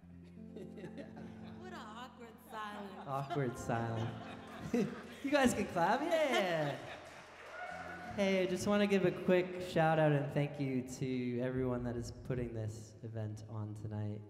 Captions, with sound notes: (band members laughing) - What an awkward silence. - Awkward silence. (audience laughing) You guys can clap, yeah. (audience cheering) Hey, I just wanna give a quick shout-out and thank you to everyone that is putting this event on tonight.